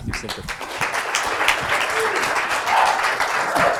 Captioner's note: applause